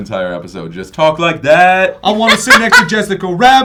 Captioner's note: loud funny accent